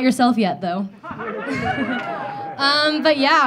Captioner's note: audience laughing